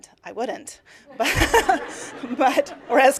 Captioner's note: laughter